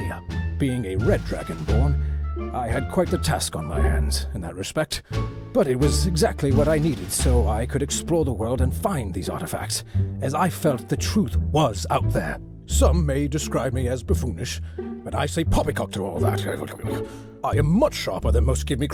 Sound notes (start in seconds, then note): none